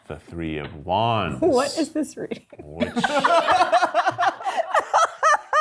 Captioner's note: cast and crew laughing